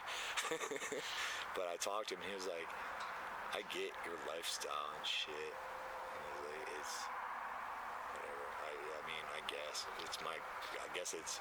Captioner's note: laughter